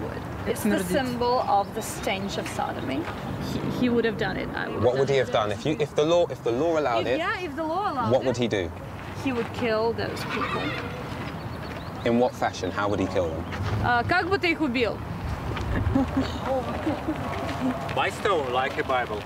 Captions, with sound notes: It's not a symbol of the stench of sodomy. He would have done it, I would have done it too. - What would he have done? If the law allowed it- - Yeah, if the law allowed it. - What would he do? - He would kill those people. - In what fashion? How would he kill them? (speaking in foreign language) - By stone, like in Bible.